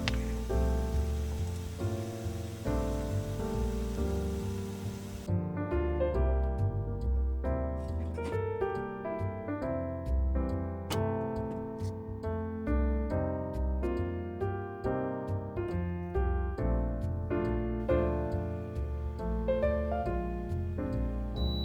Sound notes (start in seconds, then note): 6.0 water boiler